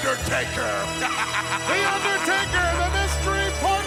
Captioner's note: laugh